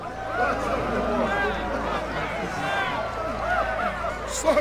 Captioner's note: cheering